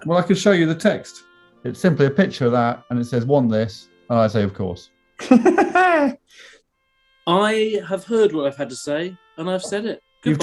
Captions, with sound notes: Well, I can show you the text. It's simply a picture of that, and it says "Want this"... ...and I say "Of course". [LAUGHING] I have heard what I've had to say... ...and I've said it.